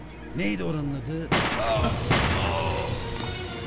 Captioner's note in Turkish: si̇lah sesi̇